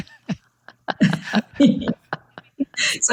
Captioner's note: laughing